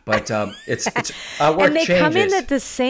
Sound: laughing

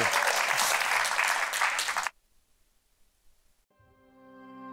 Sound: audience clapping; slow tempo music

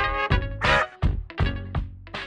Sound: quack noise

